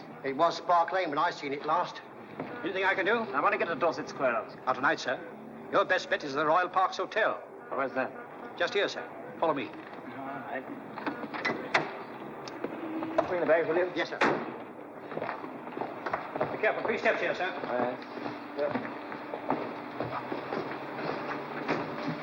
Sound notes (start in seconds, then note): 14.2 car door shuts; 18.7 mens' footsteps